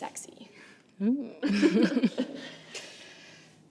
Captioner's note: Kimberly and Bethany laugh